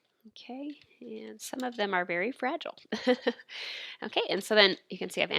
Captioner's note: chuckling